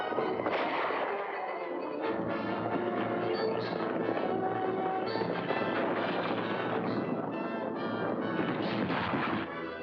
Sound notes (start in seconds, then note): 0.4 gunshot; 1.7 dramatic music; 1.7 hooves pounding; 8.4 loud thump & bang